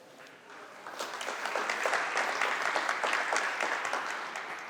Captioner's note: applause